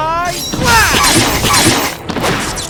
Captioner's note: coughs